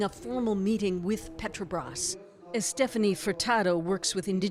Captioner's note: speaking alternate language